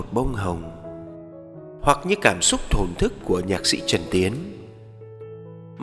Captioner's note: Vietnamese